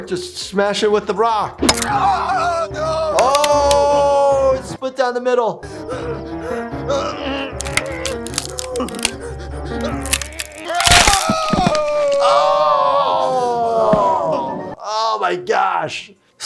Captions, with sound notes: Just smash it with the rock. (bone cracks) (painful shriek) Oh, it split down the middle. (bone cracking) (shriek of pain) Oh my gosh.